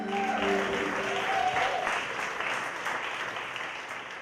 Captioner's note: audience applauding